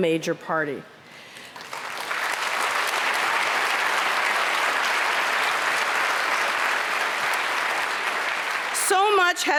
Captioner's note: applause